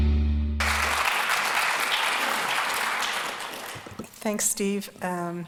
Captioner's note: audience applauding